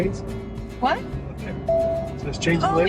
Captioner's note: device beeping